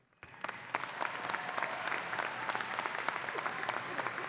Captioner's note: audience applauding